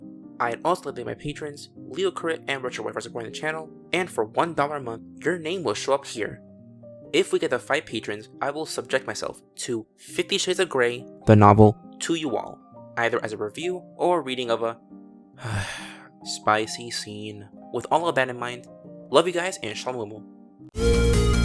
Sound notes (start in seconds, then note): 15.4 sigh